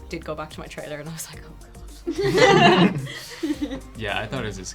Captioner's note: all laughing